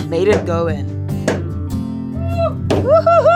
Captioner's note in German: Hammerklopfen